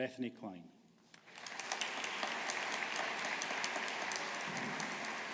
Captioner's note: audience applauding